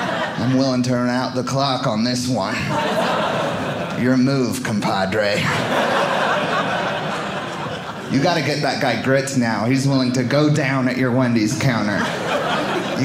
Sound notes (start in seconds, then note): 0.0 audience laughing; 5.3 audience laughing